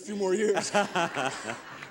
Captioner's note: laughing